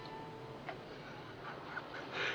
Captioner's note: laughing